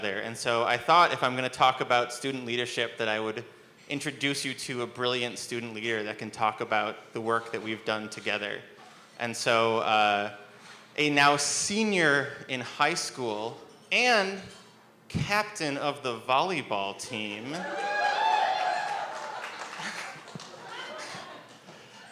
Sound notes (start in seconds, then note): 17.2 audience cheers; 18.4 laughs